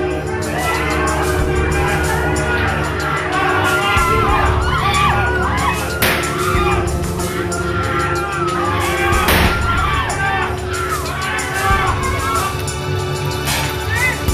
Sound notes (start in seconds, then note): 6.0 gunshot; 9.0 screaming; 9.3 gunshot